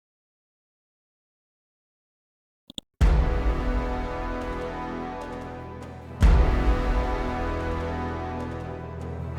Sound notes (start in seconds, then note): 2.7 mouse clicks; 3.2 dramatic chord